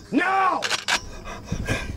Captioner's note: gun cocks